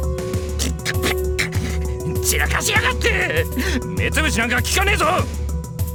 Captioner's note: spit